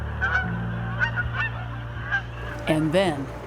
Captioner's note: geese honking